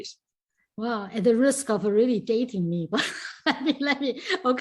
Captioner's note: laughs